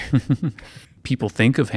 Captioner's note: chuckling